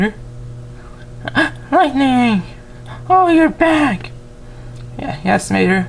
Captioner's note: gasps